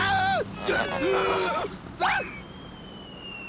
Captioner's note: screams; groaning